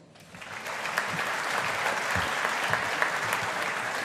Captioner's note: audience applauding